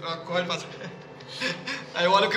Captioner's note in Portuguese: Risadas